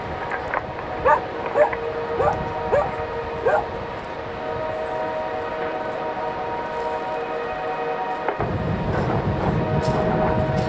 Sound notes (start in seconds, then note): 1.8 dog barking; 8.8 train noise